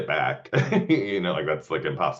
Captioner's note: laughing